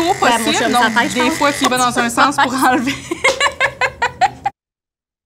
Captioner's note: laughter